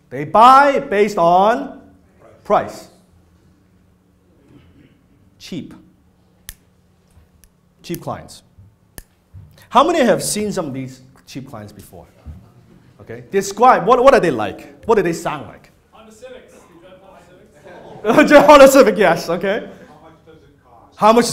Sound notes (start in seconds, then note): 17.5 laughs